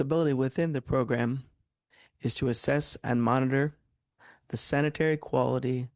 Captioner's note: speaking French